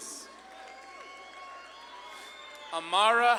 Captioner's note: audience claps and cheers